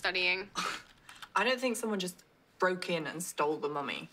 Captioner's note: scoffs